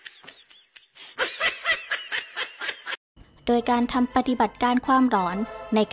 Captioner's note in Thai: เสียงหัวเราะ